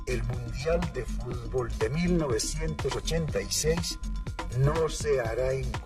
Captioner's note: speaking in foreign language